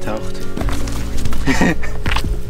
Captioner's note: laughing